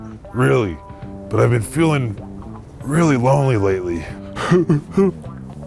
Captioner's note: whimpers